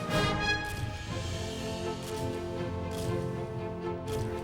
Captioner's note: camera clicking